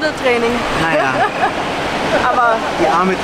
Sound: laughter

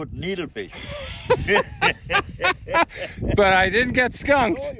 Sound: both laugh

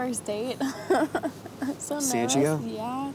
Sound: laughing

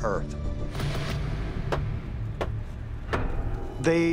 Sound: knocking

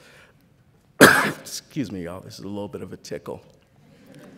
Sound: cough

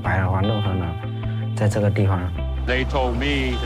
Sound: speaking foreign language

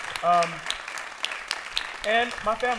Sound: applause

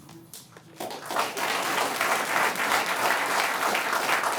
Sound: audience clapping

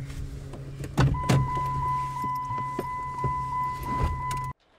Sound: car door chimes

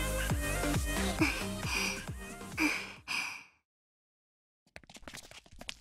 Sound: panting

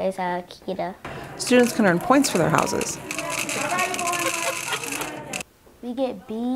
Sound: beads being poured and chatter

